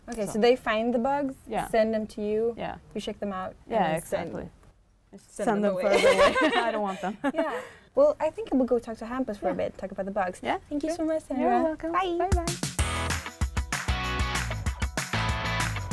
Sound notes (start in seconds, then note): 5.8 laughter